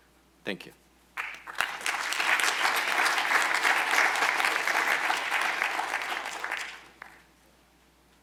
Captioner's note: applause